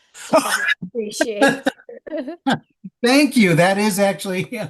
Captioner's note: laughing